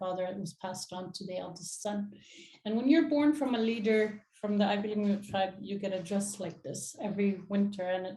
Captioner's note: inuktitut